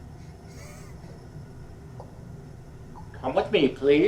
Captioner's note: Miles wheezes